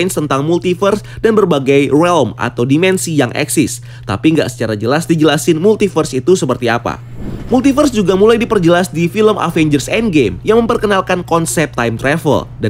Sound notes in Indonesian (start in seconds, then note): 6.9 suara transisi